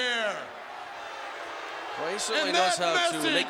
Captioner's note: crowd boos